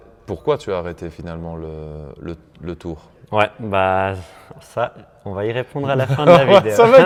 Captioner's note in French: rires